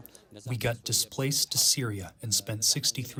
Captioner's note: through translator